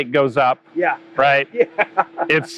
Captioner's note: laughs